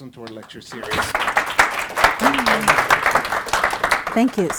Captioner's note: audience applauds